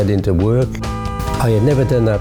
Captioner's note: honk. horns